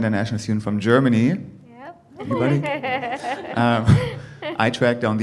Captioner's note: laughs; chuckles